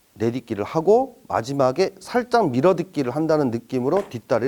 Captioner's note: stepping